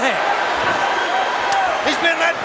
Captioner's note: crowd cheering